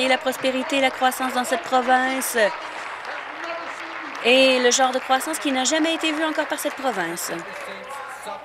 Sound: applause

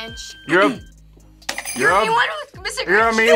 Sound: bells jingling

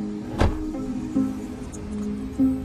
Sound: suspense music; car door closing

